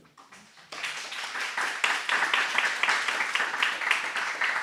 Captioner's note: audience applauding